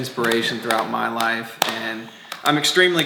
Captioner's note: slapping